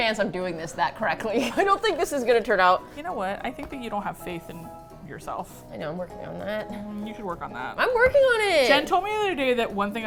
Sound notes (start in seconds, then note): 5.3 quietly